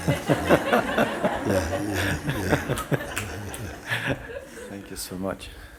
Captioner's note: laughter